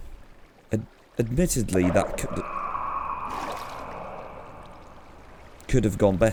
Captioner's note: more shrieker noises